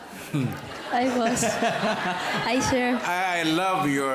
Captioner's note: chuckles